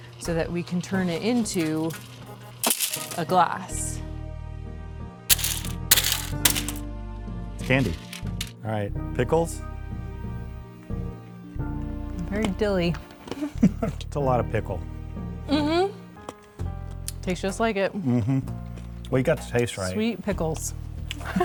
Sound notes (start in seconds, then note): 2.6 candy shatters; 5.3 candy shattering